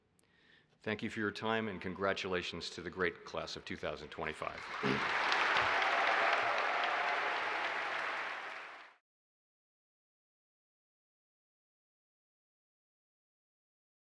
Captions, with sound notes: Thank you for your time, and congratulations to the great class of 2025. (audience applauding) (audience cheering)